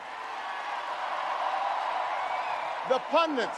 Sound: audience cheers and applauds

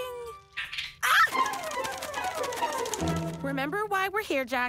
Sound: animal chitters

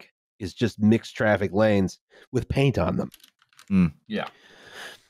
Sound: keyboard tapping

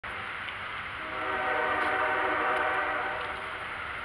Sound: First CSX Train Horn Whistles

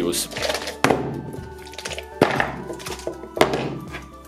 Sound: shakes paint

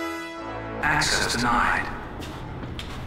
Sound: robotic Voice

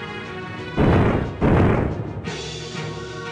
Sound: clonks

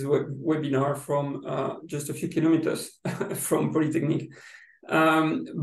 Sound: laughs

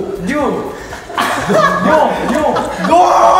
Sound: hahahahaha

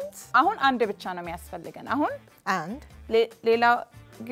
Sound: speaking Amharic

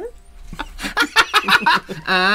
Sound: bitter Laughter

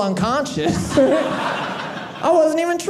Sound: audience laughing

